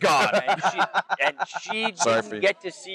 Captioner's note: laugh